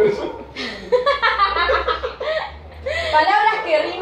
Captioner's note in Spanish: Risas